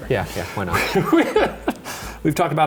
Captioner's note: laughing